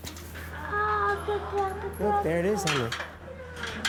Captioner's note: child chattering